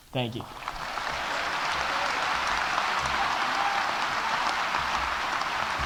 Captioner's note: audience applauding